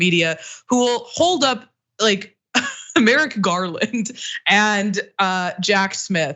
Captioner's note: laugh